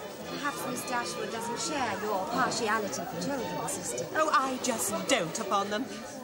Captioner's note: none